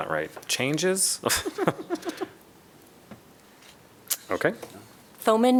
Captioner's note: laughter